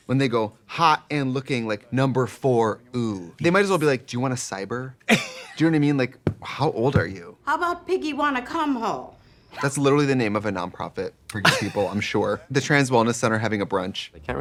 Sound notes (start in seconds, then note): 6.1 Katya laughs